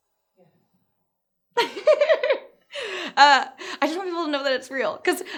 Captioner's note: laughs